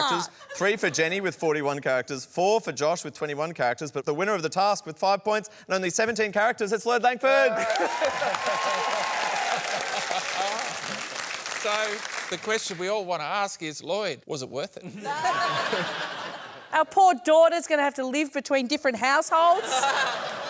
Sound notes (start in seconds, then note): 7.4 cheering, applause; 14.8 laughter